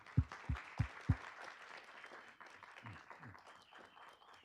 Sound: group clapping

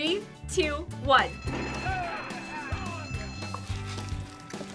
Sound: chuckles; bell rings

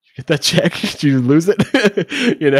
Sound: laughing

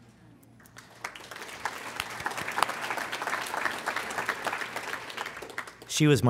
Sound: applause

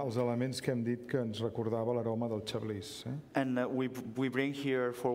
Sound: speaking catalan

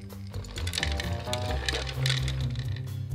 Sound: pine nuts dropping

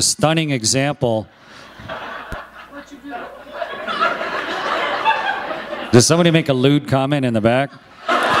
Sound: laughter

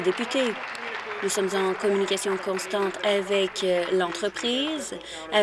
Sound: applause

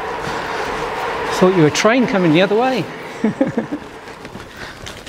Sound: laughs

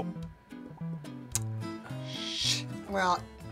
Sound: tsking

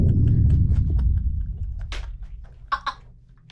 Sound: laughing

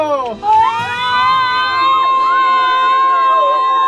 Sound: yelling

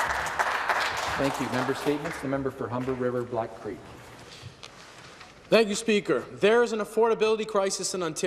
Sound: applause

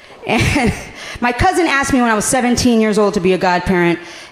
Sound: laughing

